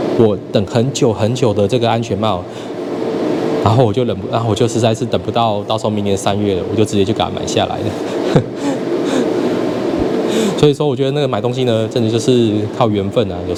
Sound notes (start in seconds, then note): 8.0 sweet laugh